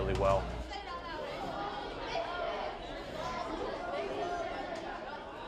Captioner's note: children chattering